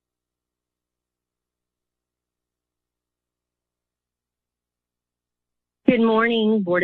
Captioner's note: silence